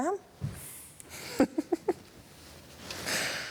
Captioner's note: rowling chuckles